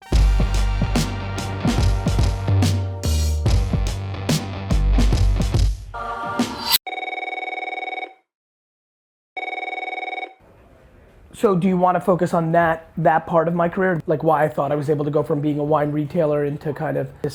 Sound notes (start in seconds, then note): 0.0 hip-hop music; 6.9 phone ringing